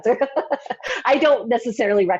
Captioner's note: laughs